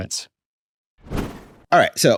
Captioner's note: air whooshes